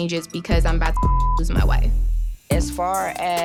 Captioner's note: beep